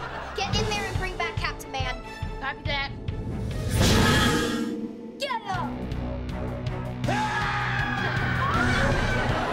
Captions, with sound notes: - Get in there and bring back Captain Man! - Copy that. Get up! [screaming]